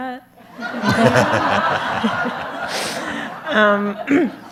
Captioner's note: audience laughs